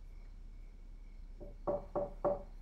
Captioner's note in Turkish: Kapı tıklaması